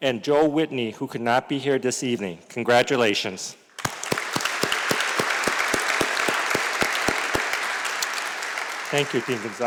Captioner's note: applause